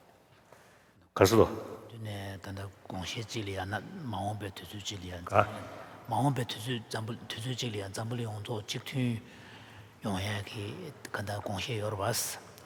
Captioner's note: foreign Language